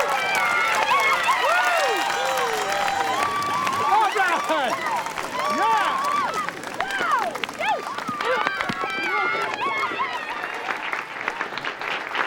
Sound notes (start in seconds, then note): 9.7 audience applauding